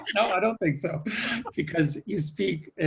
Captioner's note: laughs